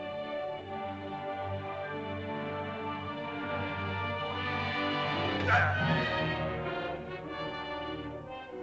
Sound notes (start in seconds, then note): 0.0 soft dramatic music; 5.2 Akhoba grunts; 5.4 suspenseful music